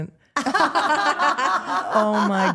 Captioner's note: Steph and Elyse laugh